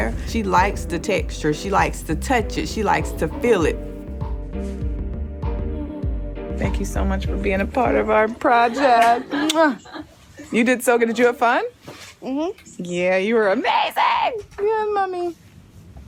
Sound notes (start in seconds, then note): 9.2 kissing